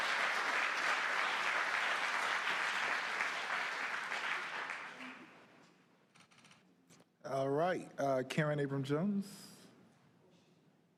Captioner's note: applause